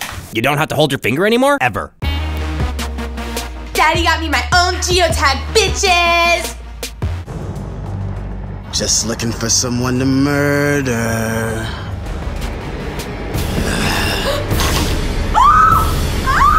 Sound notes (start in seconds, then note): 13.4 gasps; 13.7 demon sound